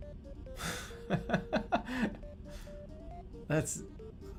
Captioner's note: laughing